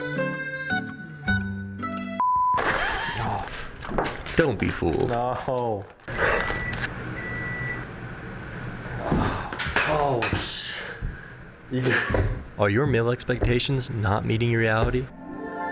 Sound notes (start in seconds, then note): 6.2 microwave going off; 11.7 groaning in frustration